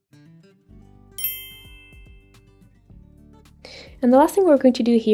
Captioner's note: transition ding